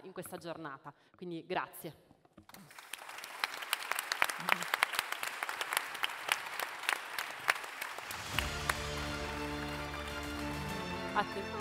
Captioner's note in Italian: Applauso